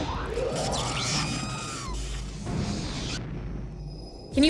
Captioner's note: r2 screeching